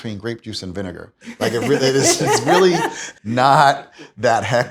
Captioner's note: laughs